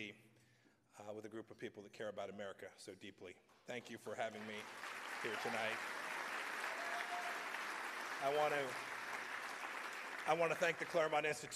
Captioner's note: applause